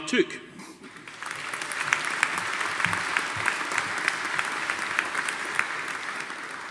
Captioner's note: audience applauding